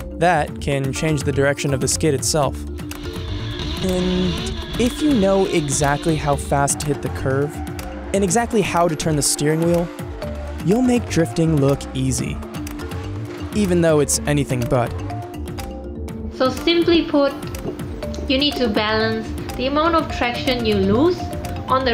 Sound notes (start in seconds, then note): 2.8 tires squealing; 2.9 engine roaring